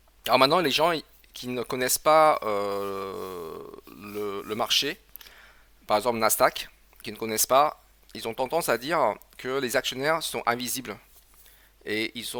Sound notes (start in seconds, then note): 2.6 gasp